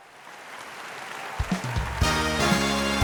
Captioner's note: audience applauds; upbeat music